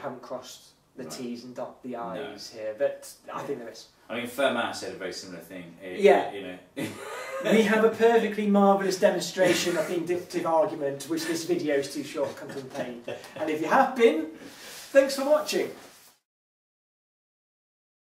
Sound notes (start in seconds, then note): 6.2 laughs